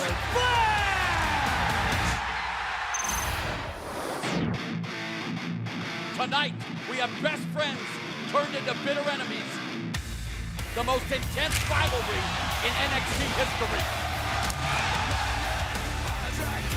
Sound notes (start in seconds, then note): 0.0 crowd cheering